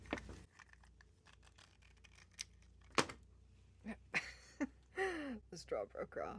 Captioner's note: laughter